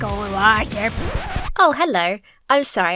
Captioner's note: record scratches to a halt